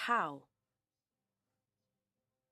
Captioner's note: speaking French